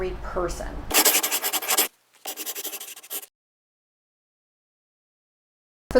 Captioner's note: scribbling